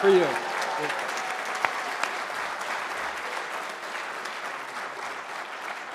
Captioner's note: applause